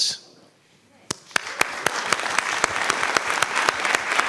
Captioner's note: applause